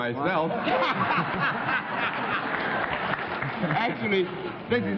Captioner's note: laughter